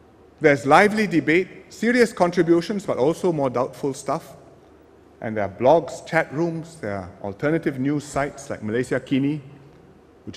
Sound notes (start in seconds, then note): none